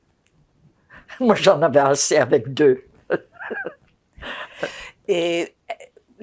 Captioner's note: laughing